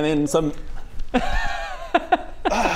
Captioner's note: unimpressed laughter